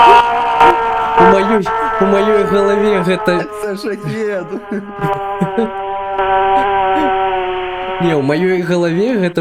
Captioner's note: drone